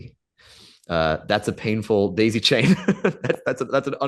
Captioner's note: Professor Greenlight laughs